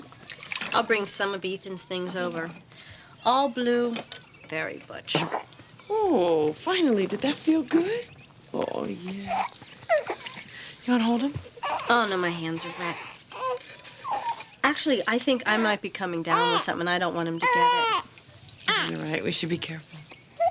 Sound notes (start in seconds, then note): 5.1 burps